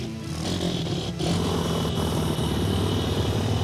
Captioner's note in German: Motor-Geräusche